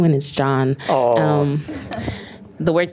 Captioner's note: audience chuckles